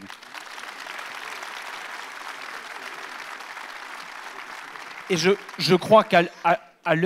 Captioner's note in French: Applaudissements